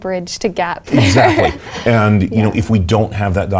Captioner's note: laugh